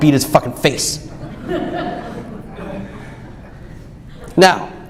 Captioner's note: audience laughs